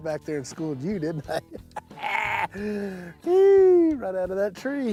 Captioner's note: laughs